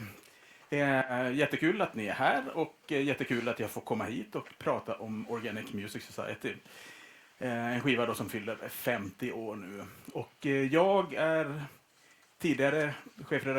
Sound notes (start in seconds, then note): none